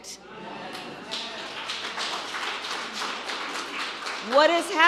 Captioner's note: applause